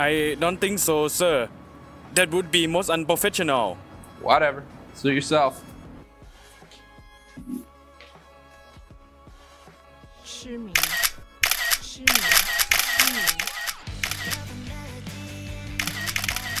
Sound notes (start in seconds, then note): 6.3 faint Thai Restaurant background music; 10.4 Mandarin language; 10.7 background Camera flash sound; 11.5 Mandarin language; 12.0 camera flash sound